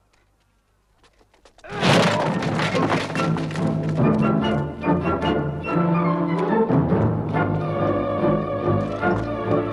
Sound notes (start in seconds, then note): 1.7 door slams; 1.9 guard groans